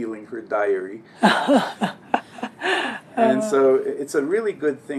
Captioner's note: laugh